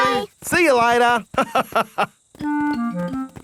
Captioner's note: laughs